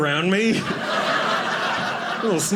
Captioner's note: audience laughing